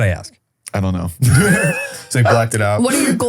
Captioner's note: laughs